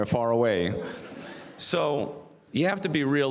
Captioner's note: audience laughs